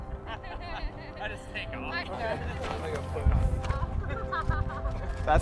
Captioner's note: models laughing